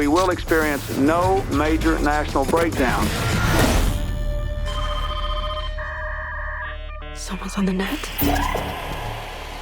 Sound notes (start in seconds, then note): 4.4 phone ringing; 6.0 internet whirring and beeping